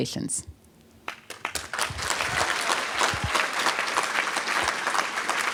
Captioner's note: applause